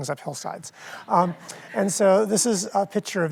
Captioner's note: audience laughs